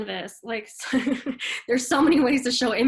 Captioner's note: chuckles